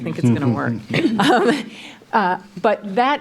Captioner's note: laughs